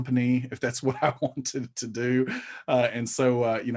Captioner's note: chuckling